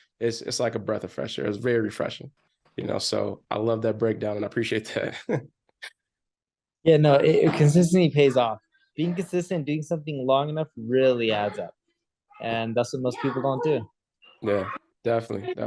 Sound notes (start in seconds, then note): 4.8 chuckles